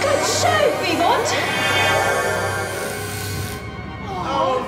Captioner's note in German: nanoporter-geräusche